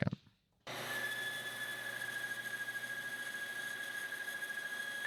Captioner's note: machine whirring